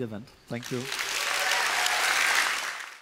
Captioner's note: applause